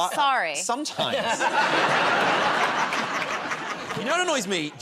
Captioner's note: laughter